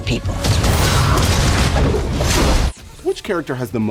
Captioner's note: crash